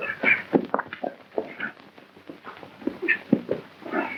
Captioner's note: grunting